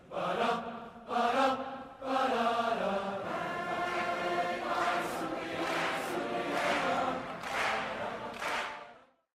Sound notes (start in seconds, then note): 4.7 crowd clapping rhythmically; 4.7 crowd vocalizing